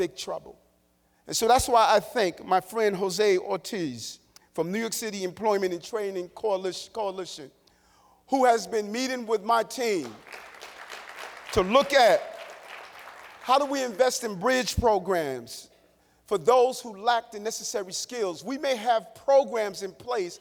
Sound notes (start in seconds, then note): 13.7 applause